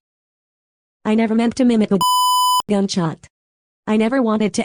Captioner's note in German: Piep